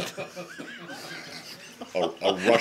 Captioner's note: laughter